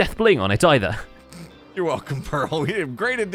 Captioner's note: snorts